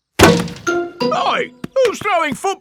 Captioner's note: thuds